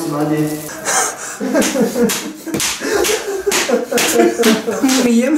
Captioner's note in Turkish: dize vurma sesleri